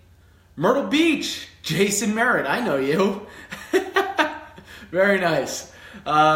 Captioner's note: chuckles